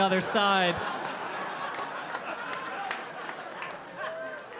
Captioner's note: audience laughing